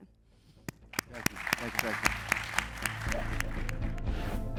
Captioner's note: applause